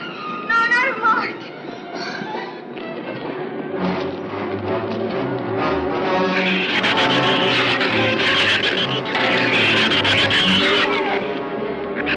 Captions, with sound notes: - No. Not a mark. (shrews screech)